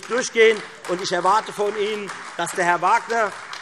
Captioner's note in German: Beifall Freie Demokraten und AfD